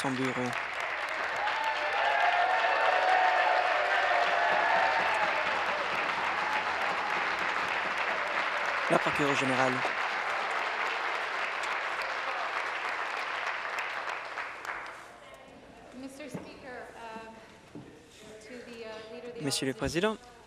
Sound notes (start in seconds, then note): 0.2 applause; 5.8 cheers and applause